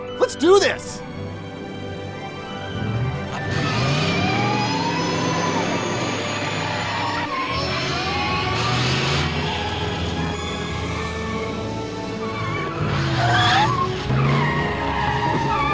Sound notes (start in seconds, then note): 3.8 brakes squealing; 3.8 car whirring; 8.1 triumphant orchestral music